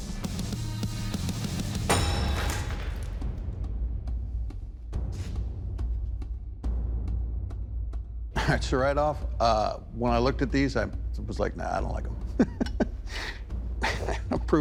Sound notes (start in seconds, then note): 1.8 shattering; 13.8 laughs